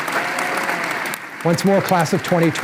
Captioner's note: applause